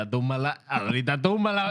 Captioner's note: speaking Foreign Language